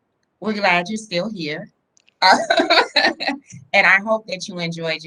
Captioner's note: laughs